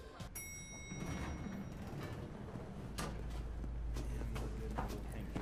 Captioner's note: elevator door dinging